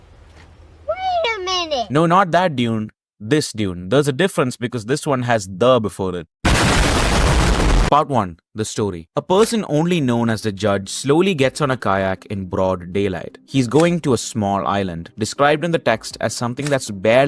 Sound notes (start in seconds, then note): 6.5 explosion